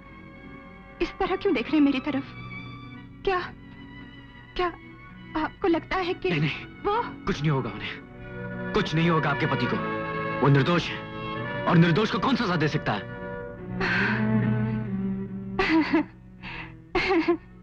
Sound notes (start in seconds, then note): 13.8 sighs; 15.6 chuckles